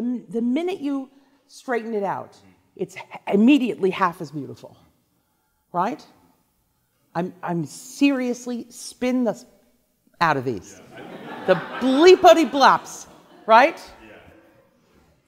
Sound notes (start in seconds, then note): 10.8 class laughs